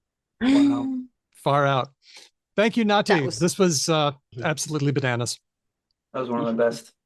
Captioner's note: laughs